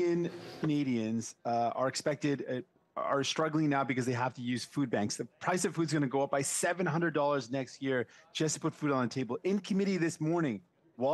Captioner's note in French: voix de l'interprète